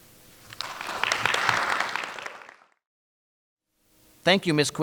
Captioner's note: crowd applauding